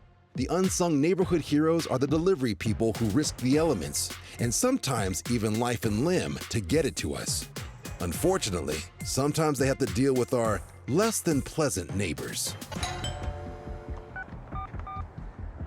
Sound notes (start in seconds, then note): 12.7 doorbell rings; 14.5 pad beeping